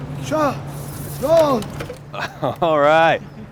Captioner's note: shouts in a foreign language; laughs